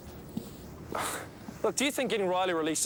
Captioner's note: Dave sighs